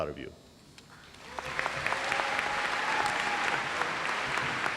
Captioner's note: audience applauds